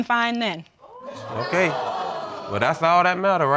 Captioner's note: audience exclaiming